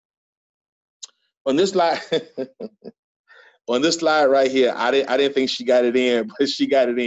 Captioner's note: laughs